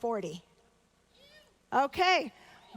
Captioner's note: audience member shouting